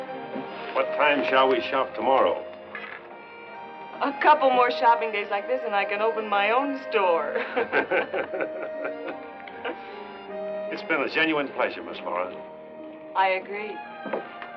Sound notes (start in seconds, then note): 7.3 both laugh